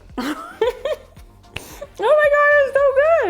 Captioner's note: laughs